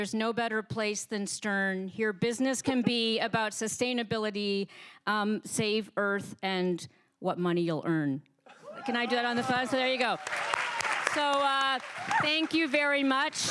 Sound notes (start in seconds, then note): 8.7 applause